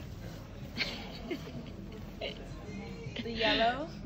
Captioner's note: laughing